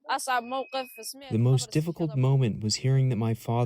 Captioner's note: through translator